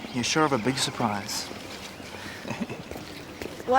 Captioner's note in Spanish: risas